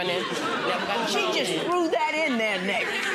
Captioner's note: audience laughing